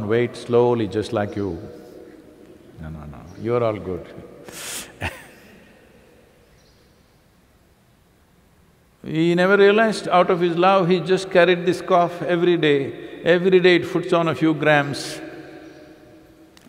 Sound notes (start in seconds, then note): 4.8 laughs